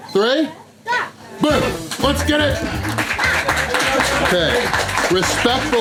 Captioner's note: crowd applause